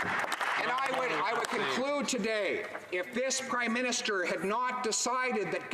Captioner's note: some Applause